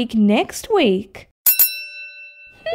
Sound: ding!

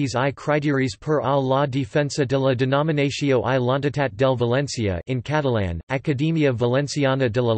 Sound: in Catalan

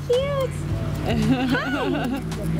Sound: laughing

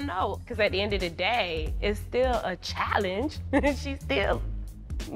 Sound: chuckles

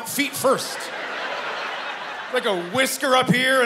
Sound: laughter

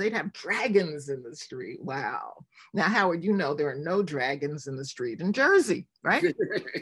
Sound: laughs

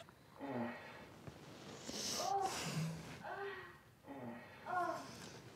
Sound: man and woman moaning on TV

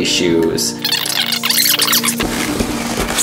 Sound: videotape screeching; rustling

